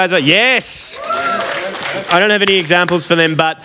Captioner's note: applause